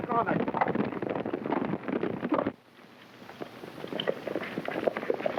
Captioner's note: hooves clopping